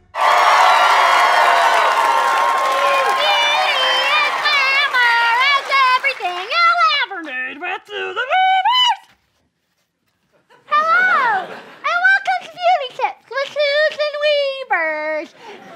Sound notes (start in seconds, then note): 0.0 audience cheering; 10.0 with a lisp